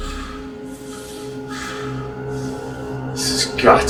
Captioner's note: Benz breathing heavily